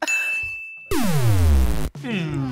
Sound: deep hum

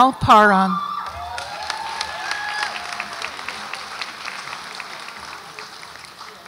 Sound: audience applauds and cheers

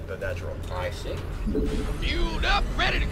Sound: various game sounds

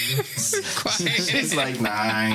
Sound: laughs

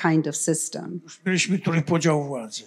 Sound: foreign language

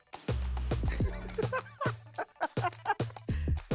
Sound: upbeat music plays; laughing

